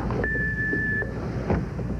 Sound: beep

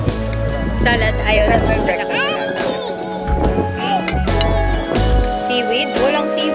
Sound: baby talk

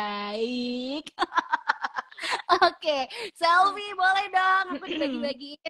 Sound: laughs

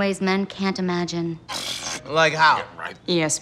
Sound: scoffs

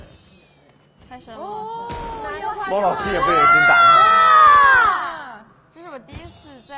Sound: marveling at the fireworks

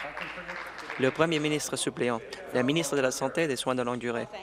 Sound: applause

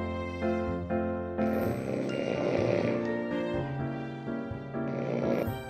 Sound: snore~

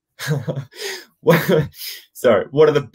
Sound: laughs

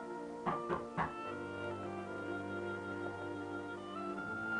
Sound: knock knock Knock

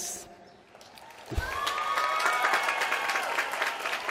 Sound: applause

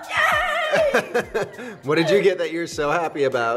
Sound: laughing

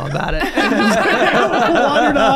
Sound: all laughing

